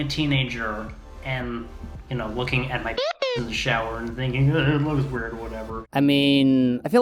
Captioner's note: bwee bwoo